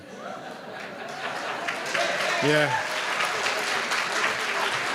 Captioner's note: applause